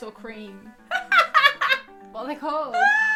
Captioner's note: laughing